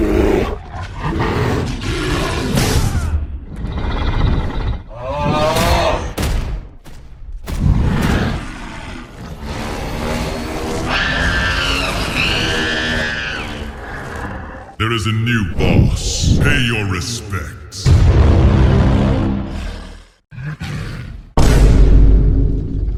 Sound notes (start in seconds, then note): 9.5 King Kong screaming for his life